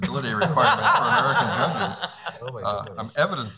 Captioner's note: laughing